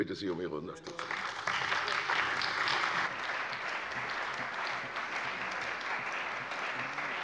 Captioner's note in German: Beifall bei der CDU und dem BÜNDNIS 90/DIE GRÜNEN